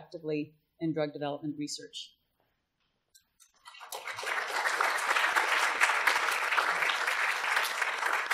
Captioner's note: applause